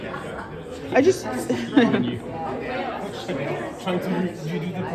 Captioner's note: laughs